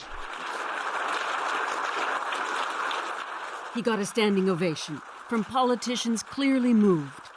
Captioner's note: applause